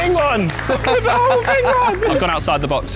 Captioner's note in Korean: 웃음